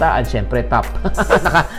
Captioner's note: laughs